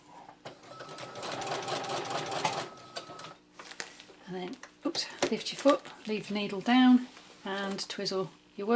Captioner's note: sewing machine noise